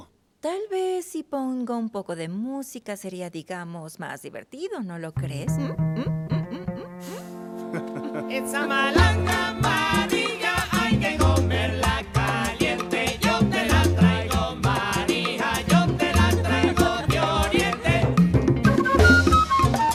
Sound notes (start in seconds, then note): 7.7 Mario ríe; 8.5 Música latina